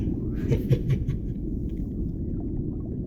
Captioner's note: dragon chuckles